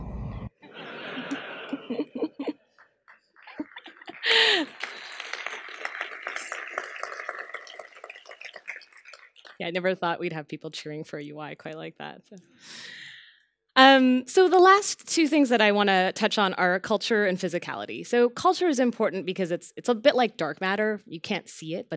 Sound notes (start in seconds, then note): 0.6 laughter; 3.1 applause